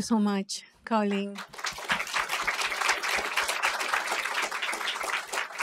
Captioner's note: applause